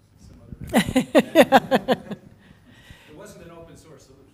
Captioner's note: laugh